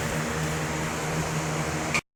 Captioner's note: fan blowing in the background